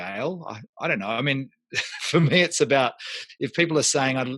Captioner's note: laughs